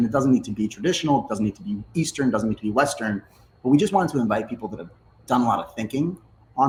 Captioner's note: none